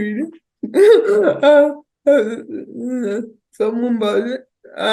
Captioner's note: guffaws